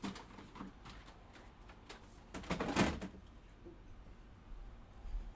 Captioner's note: plastic clanking